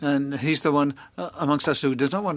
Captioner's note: speaking French